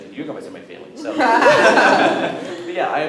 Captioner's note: laughter